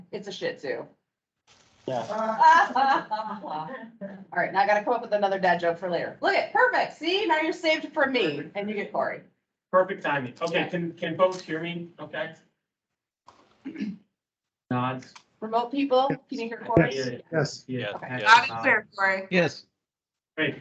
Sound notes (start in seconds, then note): 2.3 speakers laughing